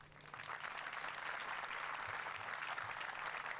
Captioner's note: applause